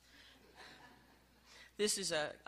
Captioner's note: light laughing